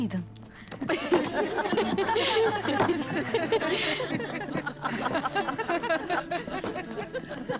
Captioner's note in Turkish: Gülme sesleri